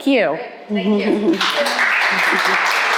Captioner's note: student applauding